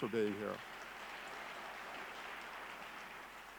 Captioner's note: clapping